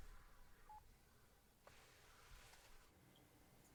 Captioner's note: phone beeping